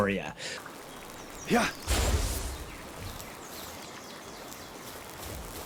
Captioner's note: staff whooshing